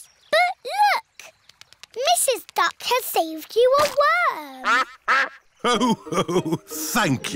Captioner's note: quacks